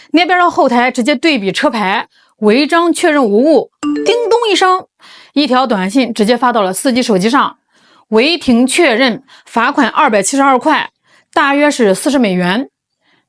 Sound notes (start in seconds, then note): 3.8 ding!